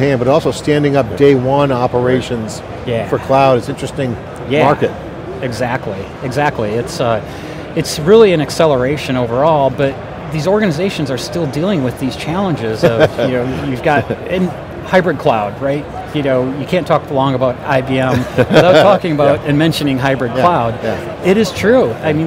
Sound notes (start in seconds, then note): 12.8 chuckles; 18.0 laughs